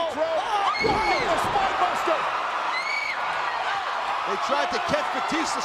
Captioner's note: crowd cheering